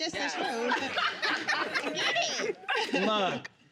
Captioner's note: all laughing